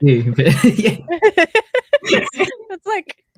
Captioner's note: laughs